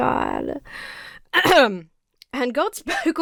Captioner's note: clears throat